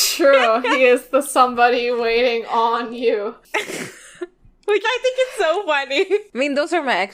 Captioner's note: laughs; laughing